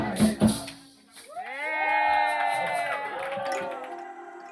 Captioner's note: Aclamaciones y aplausos